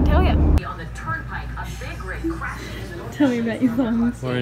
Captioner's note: TV plays in background